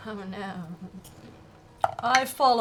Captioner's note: quietly